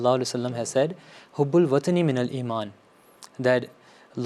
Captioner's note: Arabic